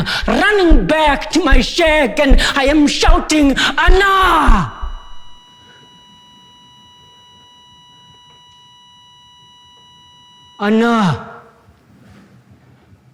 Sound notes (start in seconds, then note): 6.2 heartbeat flatline tone